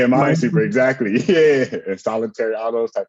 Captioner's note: laughs